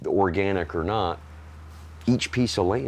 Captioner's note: tractor engine purring